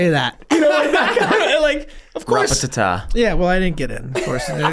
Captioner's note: gang laughs